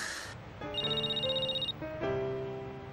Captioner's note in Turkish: telefon çaliyor